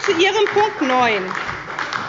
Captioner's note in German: Beifall bei der SPD